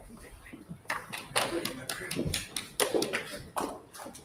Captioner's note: patting